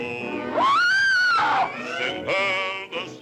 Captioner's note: serpent screeches